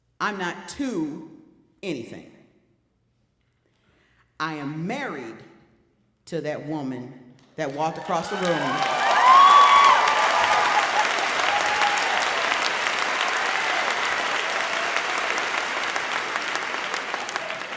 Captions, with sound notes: I'm not too anything. I am married... To that woman that walked across the room. (audience cheering)